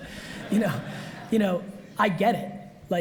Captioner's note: audience laughs